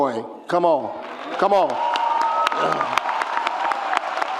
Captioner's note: cheers